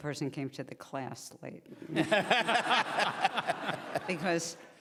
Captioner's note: laughing